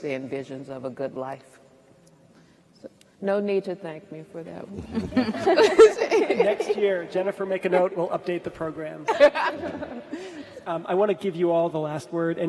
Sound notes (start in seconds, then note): 4.9 all laugh; 9.1 all laugh